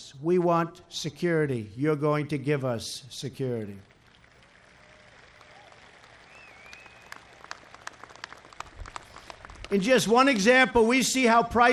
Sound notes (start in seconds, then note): 3.6 applause